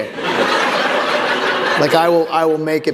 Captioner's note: laughter